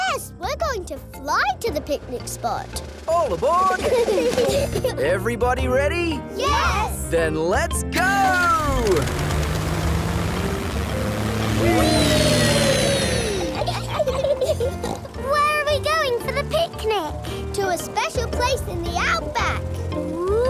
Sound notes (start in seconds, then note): 3.7 children giggle; 13.0 laughs and snorts